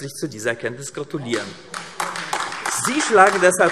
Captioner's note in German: Beifall AfD